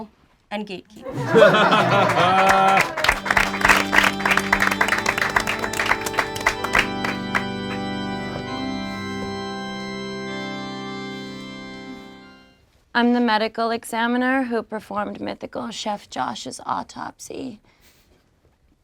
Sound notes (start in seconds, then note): 1.0 group laughs; 3.2 group claps